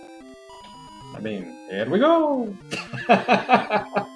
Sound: imitating Mario; laughs

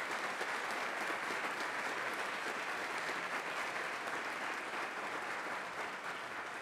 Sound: audience clapping enthusiastically

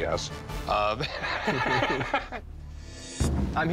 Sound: both laugh

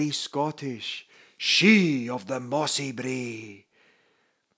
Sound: in a very scottish voice

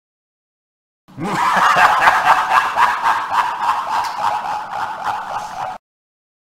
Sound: sound of laughter

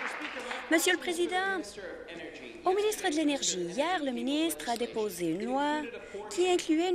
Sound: applause

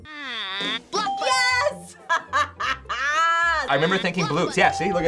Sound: laughs

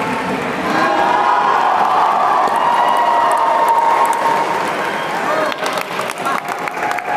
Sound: applause

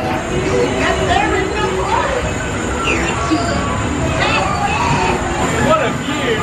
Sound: laughs

